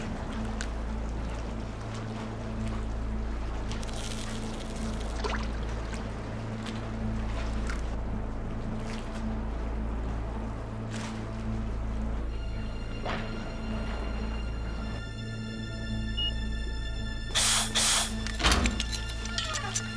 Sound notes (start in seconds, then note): 3.8 reel clicking; 5.8 hook splashing; 15.1 beeping